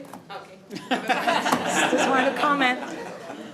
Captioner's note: audience laughing